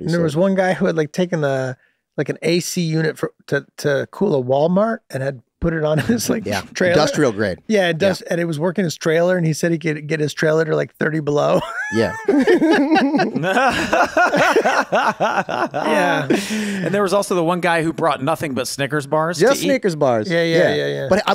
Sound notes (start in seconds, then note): 11.6 hosts laugh